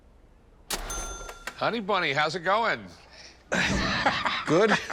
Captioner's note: laughs